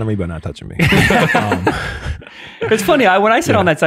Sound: fathers laughing

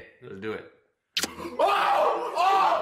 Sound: smooch

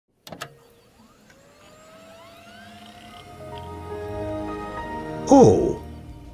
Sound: Windows XP start-up sfx

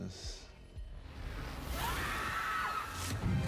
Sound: woman screams

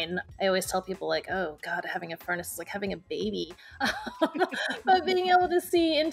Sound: laughing

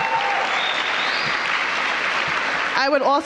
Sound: applause

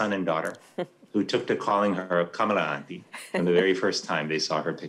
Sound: foreign language

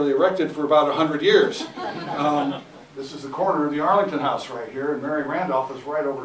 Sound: laughter

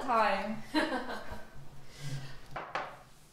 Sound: laughing

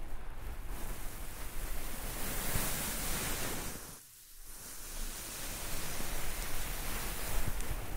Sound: rubbing earmuffs

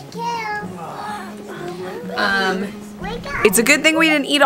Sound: children groaning

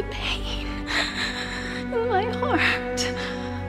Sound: Kate crying

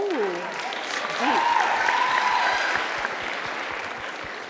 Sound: audience applause

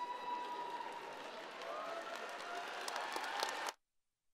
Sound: crowd cheering

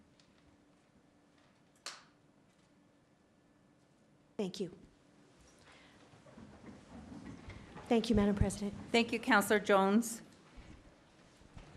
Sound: moment of silence

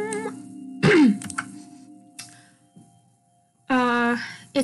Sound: cough

